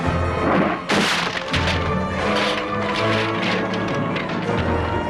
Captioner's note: table splinters